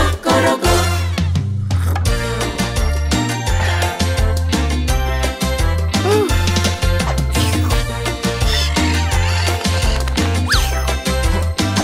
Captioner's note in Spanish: Música alegre; Sonido de cotorras